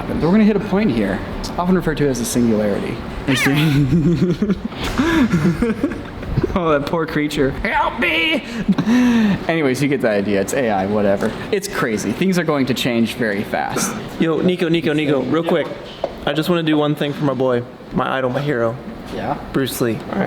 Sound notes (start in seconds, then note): 3.4 laughter; 7.6 disfigured cat voice